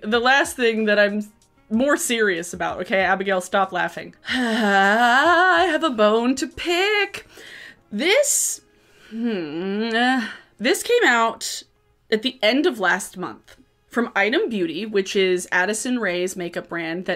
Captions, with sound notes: the last thing, that I'm more serious about. Okay, Abigail, stop laughing. (sighs loudly) I have a bone to pick. This, (groans) this came out at the end of last month from ITEM Beauty, which is Addison Rae's makeup brand